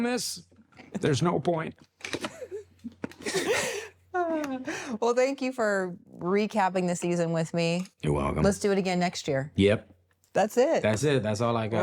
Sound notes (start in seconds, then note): 2.2 both laugh